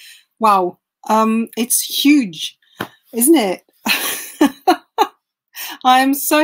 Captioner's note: laughing